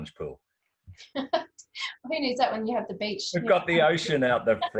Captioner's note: laughs